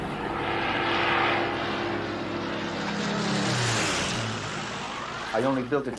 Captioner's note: airplane passing